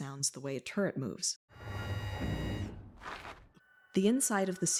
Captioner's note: scary turret noise